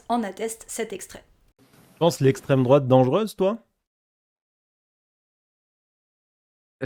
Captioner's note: weird silence